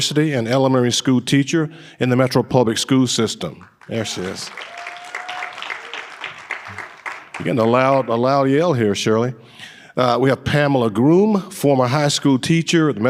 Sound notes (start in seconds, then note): 3.7 audience applauding and cheering